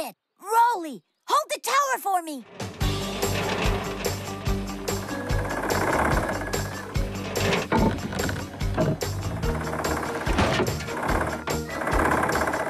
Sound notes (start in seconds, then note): 2.7 fast-Paced Music; 7.6 thudding; 9.5 engine Rumbles